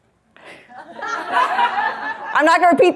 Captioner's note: audience laughs